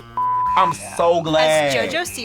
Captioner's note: beeping; laughs